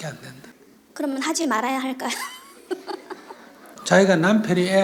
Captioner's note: questioner Laughter